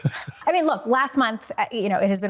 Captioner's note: Brandon laughs